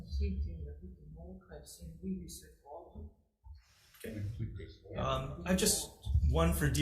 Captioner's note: speaks faintly